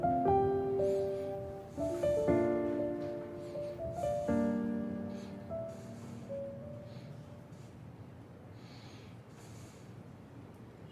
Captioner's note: slight panting